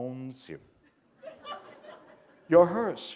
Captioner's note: laughter